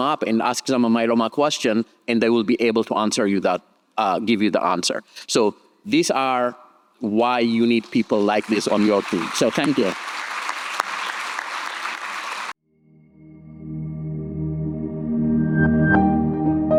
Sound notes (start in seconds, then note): 10.2 audience clapping; 13.3 bright upbeat music